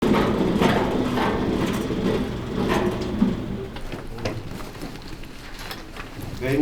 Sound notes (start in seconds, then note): 0.1 wheel spinning; 5.2 paper rustling